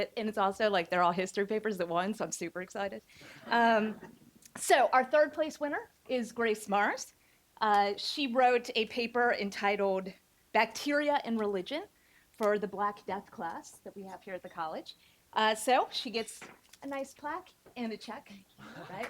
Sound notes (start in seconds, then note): 3.4 audience laughing